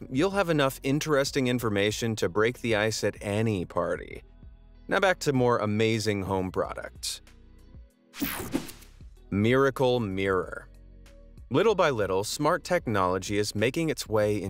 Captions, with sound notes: you'll have enough interesting information to break the ice at any party. Now, back to more amazing home products. (air whooshing) Miracle Mirror. (upbeat music) Little by little, smart technology is making its way